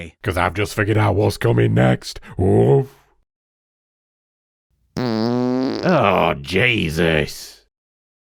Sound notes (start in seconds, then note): 4.9 long fart noise